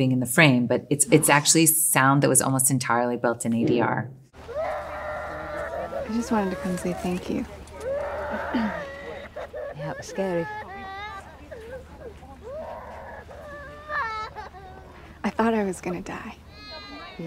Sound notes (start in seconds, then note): 5.8 Elena crying